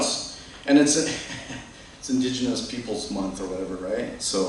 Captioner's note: chuckles